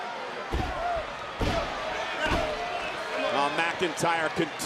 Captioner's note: foot thudding